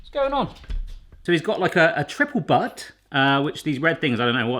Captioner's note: none